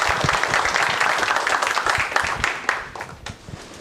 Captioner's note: applause